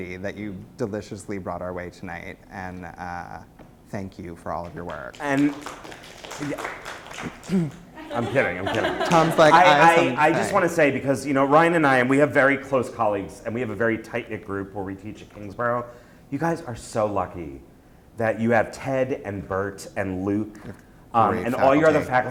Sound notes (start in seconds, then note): 4.6 applause; 6.6 voiceover